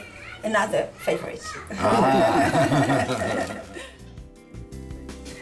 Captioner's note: laughs